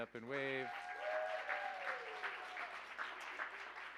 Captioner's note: cheers, applause